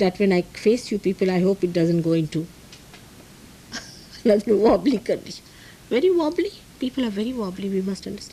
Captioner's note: laughs